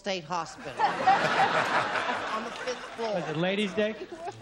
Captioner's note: laughter